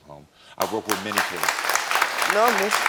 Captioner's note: crowd applauding